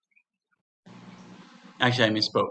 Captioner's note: humming sound